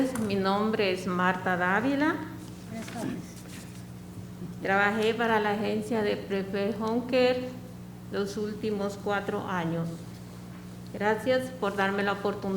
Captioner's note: speaking spanish